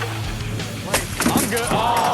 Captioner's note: audience laughs; bottle smashes